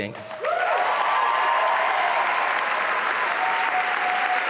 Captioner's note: applause and cheering